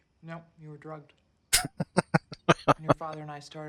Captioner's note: chuckling